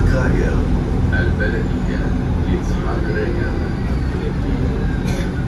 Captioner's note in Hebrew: ערבית